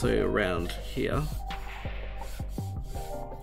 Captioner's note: the sounds of pencils scratching paper